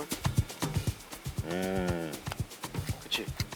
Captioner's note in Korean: 감탄